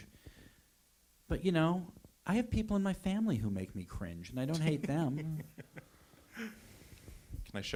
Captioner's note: laughter